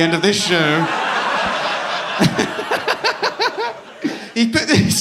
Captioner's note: audience laughing